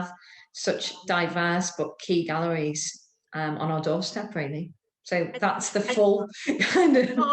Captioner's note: laughs